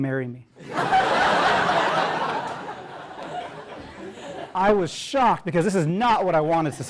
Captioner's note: laugh